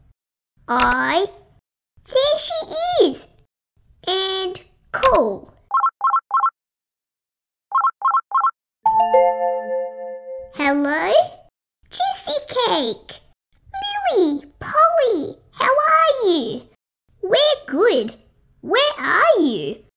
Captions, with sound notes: I... There she is! And call! (Dialling) (Ding!) Hello? Jessicake! Lily! Polli! How are you? We're good! Where are you?